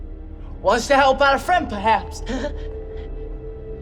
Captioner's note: Tippet chuckles